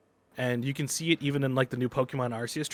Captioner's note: none